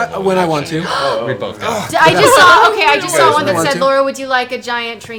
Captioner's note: gasps